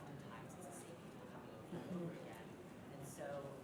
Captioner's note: speaks faintly